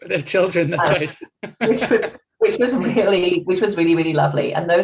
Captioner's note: laughter